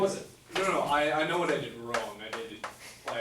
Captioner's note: voiceover